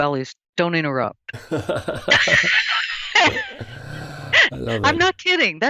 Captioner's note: both laughing